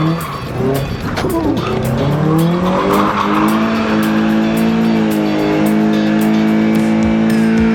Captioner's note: engine revving